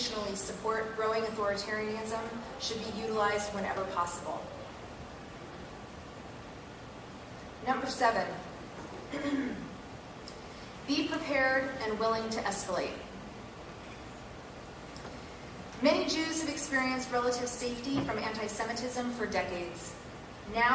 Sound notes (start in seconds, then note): 8.9 cough